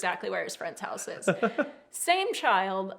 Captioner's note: laughs